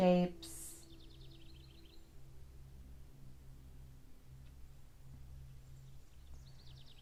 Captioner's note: gentle music; birds chirping